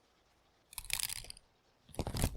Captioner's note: opening and closing fan